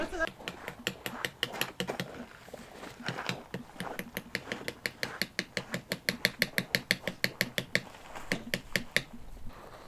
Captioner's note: more rock pounding